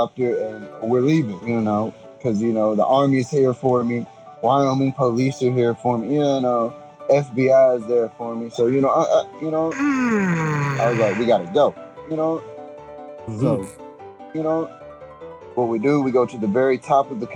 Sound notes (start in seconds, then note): 9.7 yawns